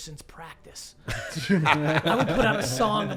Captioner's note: all laugh